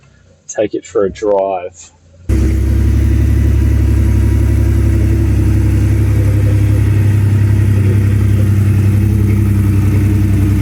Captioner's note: engine noise